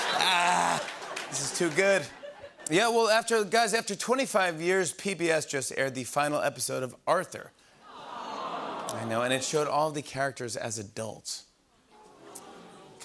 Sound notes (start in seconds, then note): 7.9 audience "Awws"